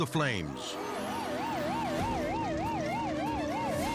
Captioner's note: siren blaring